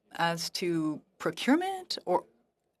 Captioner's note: speaking French